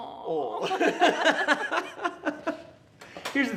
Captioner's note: both laughing